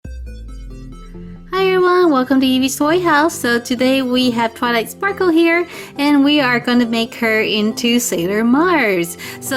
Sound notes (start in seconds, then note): 0.2 upbeat music; 1.6 voiceover